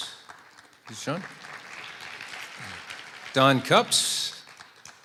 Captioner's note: applause